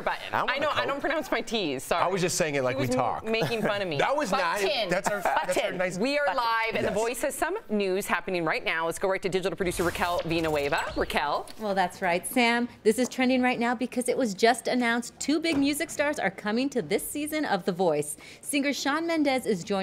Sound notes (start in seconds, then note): 4.8 laughter